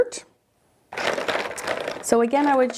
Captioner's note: markers rattling